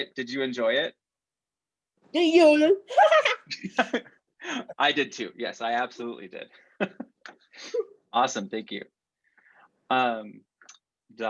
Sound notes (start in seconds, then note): 2.9 laughter